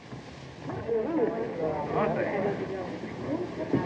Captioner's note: people chattering